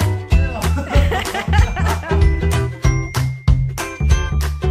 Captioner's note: laughing